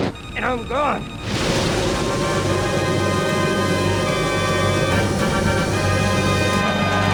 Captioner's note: aircraft whirring; radio beeps; tense music; aircraft whirring